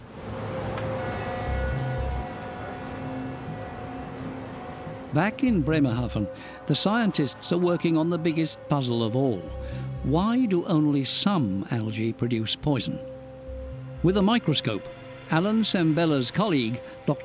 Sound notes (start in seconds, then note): 1.0 boat horn